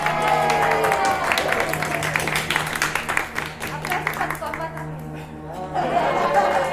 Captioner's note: celebration and applause/ start of dinner